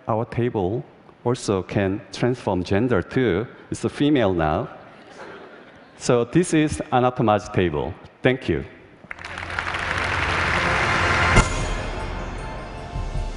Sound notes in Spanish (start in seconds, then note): 9.0 Aplausos